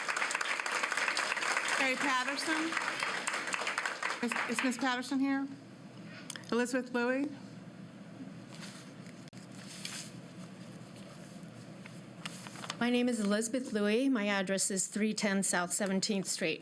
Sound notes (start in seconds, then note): 6.0 applause